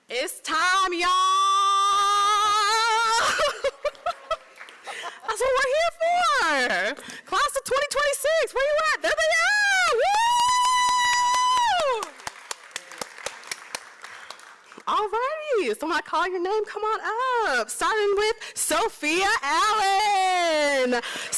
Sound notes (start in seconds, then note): 2.9 laughs; 10.3 applause